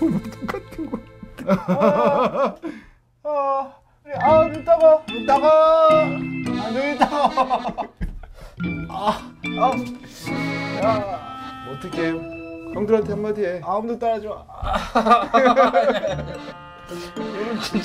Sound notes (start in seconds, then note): 3.9 groaning; 10.1 shouting